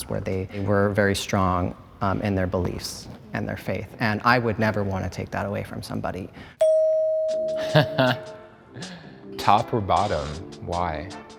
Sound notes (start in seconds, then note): 6.6 bell dings; 7.6 chuckles